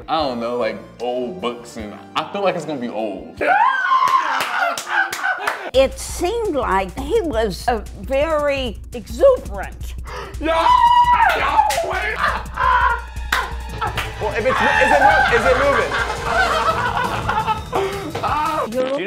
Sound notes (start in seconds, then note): 3.4 yelling; 4.0 hands clapping; 10.3 hands clapping; 10.3 yelling; 11.9 laughing; 14.5 laughing